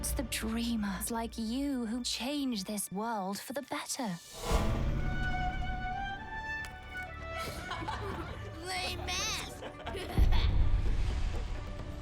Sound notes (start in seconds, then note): 7.1 children laughing; 10.1 laughs